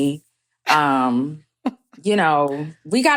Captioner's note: chuckles